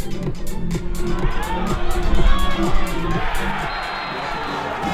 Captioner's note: crowd Cheers